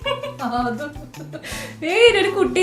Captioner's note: laughter